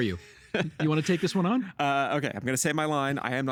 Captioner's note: laughing